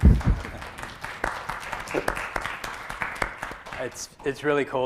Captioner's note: applause